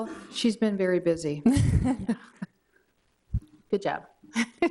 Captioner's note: laughs